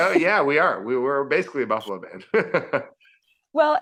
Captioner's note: laughing; laughing